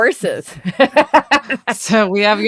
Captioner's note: both laugh